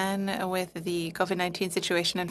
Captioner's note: speaking French